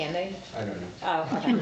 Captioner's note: laughs